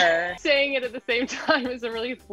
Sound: laughing

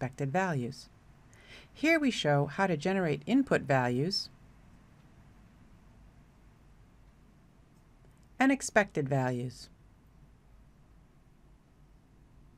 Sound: long pause

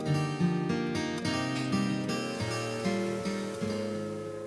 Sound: soft train whistle

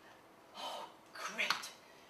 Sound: takes a breath of relief

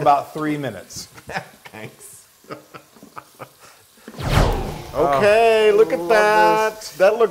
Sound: laugh

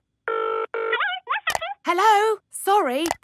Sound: dials phone; on phone

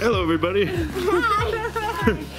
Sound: laughing

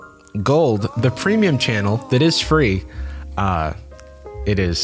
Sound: disembodied voice

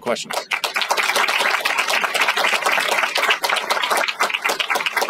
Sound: applause

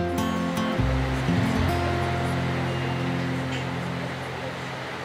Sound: rain

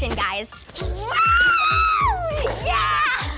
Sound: screams

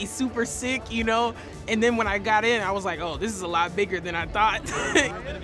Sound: laughs

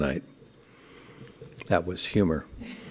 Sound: laughter

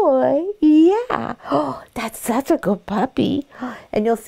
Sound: gasps

